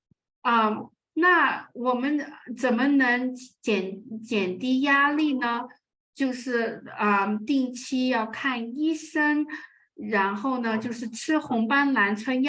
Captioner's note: speaking chinese